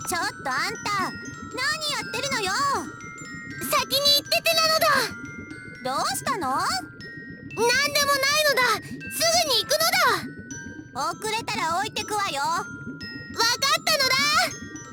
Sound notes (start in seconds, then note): 4.1 shout; 8.2 shout; 13.9 shout